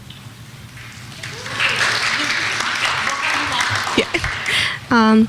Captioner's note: clapping